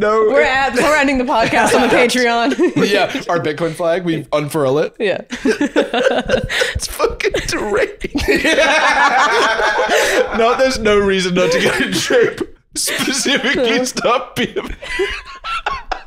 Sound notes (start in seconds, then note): 5.3 laughing; 8.7 all laughing; 15.1 laughing